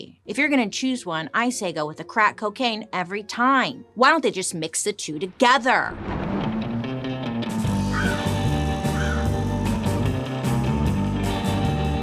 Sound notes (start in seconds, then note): 5.8 thunder crashing; 6.5 upbeat mysterious rock music; 8.9 bird cawing